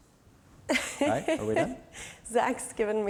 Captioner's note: laughs